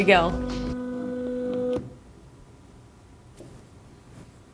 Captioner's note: device whirs